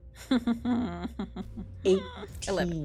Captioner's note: Bergamot chuckles